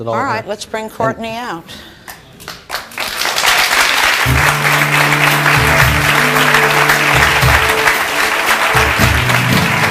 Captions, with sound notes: - All right. Let's bring Courtney out. (audience clapping) (bright music)